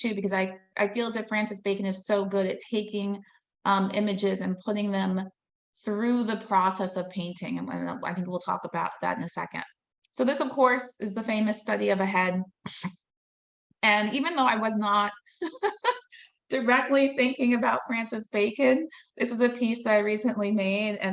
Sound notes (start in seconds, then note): 15.4 laughing